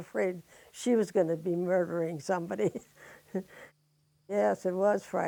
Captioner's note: laughs